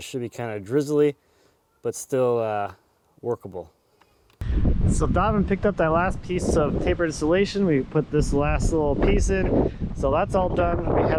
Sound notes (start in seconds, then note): 4.4 wind gusting